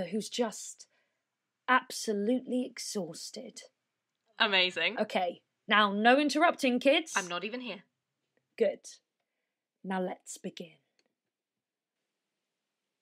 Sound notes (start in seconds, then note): 11.3 a pause